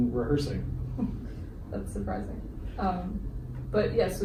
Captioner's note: chuckles